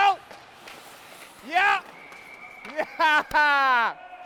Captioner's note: whistle blowing; laughing